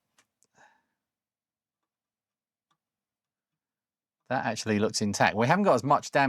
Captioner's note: silence